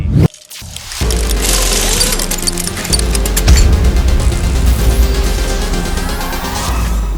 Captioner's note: mechanical parts clatter; suspenseful music